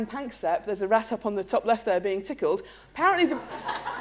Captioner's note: laughter